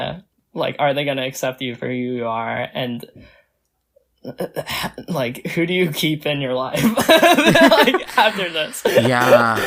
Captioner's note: both laugh